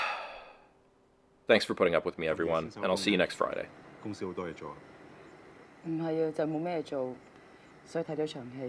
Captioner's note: sigh